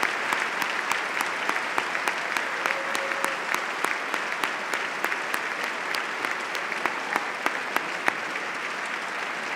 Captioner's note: applause